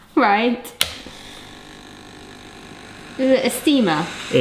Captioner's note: steamer whirs